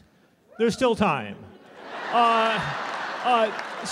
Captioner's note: laughter